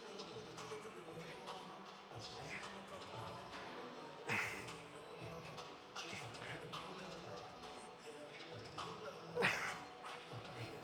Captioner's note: grunting